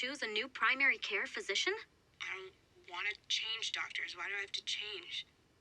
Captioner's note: woman on phone